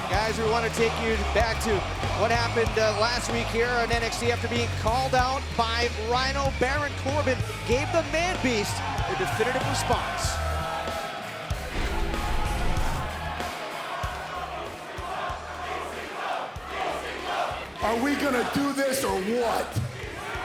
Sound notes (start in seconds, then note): 13.9 crowd cheering